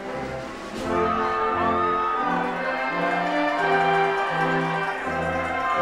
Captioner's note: attendees cheering